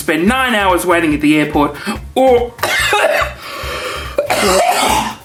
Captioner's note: coughs